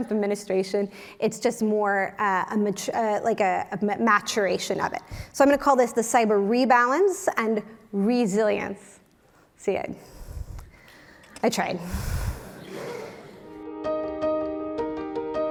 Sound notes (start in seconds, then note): 12.5 laugh